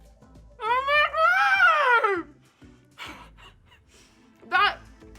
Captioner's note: laughing